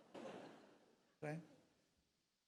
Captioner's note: audience laughs